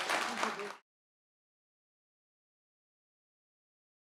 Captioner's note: audience applauding